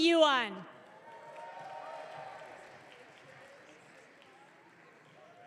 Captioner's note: audience cheering